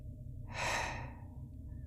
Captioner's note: sigh